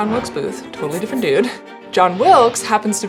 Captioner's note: chuckles